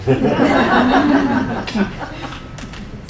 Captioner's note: laughing